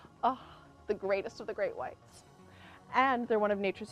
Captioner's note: sighs